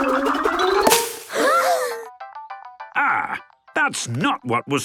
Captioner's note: all gasping